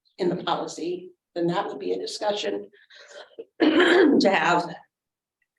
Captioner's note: throat clearing